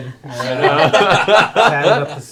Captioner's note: laughter